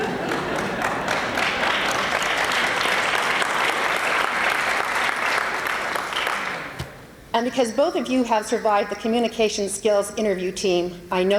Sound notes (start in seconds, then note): 0.0 laughter; 1.8 applause